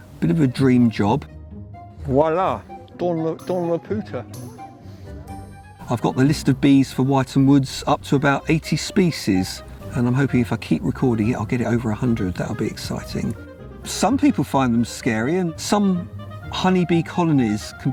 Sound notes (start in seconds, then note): 3.3 speaking French